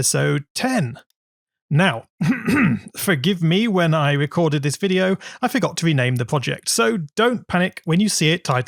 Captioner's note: coughs